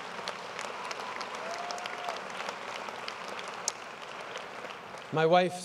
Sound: applause & cheers

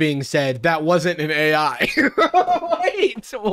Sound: laughs

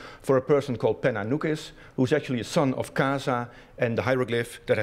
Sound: non-english speech

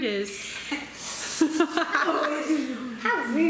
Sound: laughing

